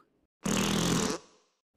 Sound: farts

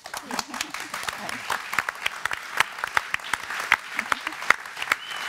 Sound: applause

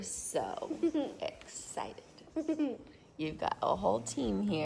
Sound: child laughing

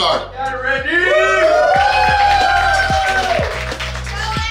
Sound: cheering

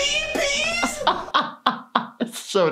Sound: laughs

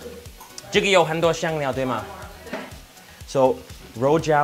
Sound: speaks in foreign language

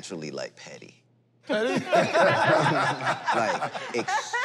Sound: laughter

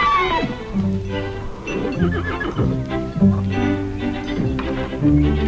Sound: horse whinnies

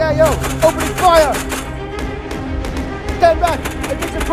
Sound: gun Shots

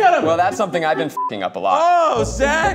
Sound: beep

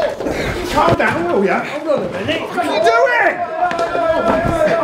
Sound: all shouting and pushing

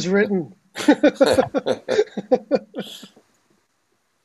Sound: laughs

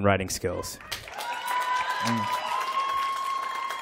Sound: applause

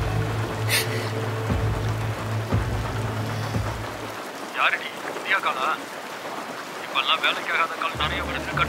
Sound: drowning sounds

